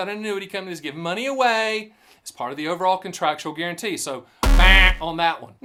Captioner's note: buzz sound